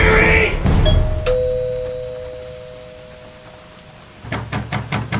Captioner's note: doorbell ringing; knocking on door